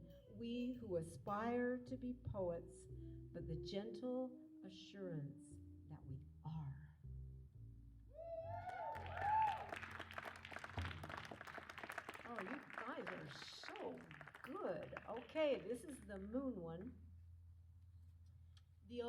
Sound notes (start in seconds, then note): 8.2 cheering